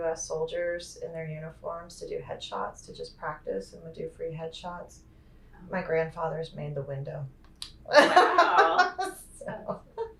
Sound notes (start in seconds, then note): 7.9 laughter